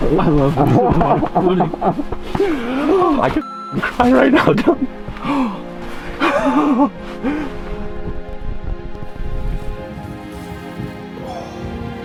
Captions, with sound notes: (men laughing) I could (beep) cry right now, Dylan. (uplifting music)